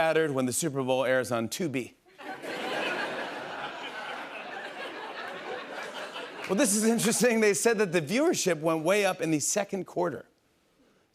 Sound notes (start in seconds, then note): 2.1 laughter